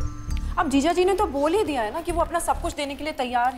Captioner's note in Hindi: none